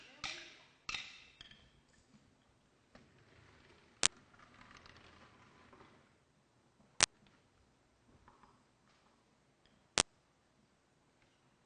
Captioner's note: silence